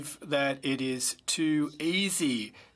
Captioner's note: speaking French